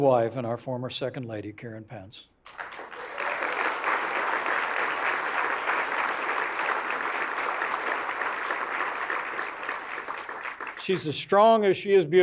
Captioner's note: applause